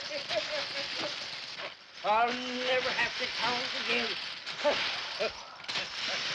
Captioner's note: cackling & coins clinking; coins clinking; cackling; coins clinking